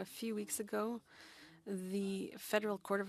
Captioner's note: speaking French